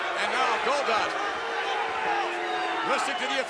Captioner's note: crowd yelling